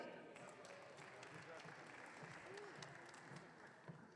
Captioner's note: audience cheering